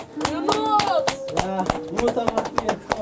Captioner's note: clapping